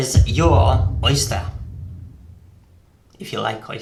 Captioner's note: boom